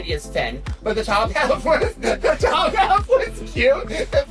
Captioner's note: laughs